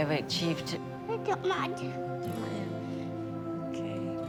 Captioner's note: speaking foreign language